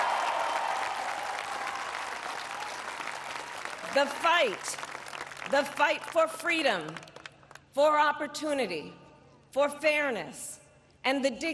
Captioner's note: applause